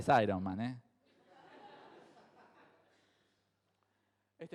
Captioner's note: crowd laughs